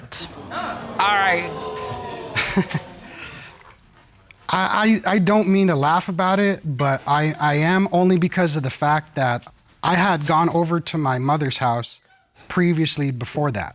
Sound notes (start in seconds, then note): 1.8 chuckles; 4.3 stutters